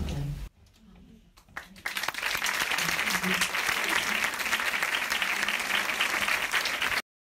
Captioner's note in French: applaudissements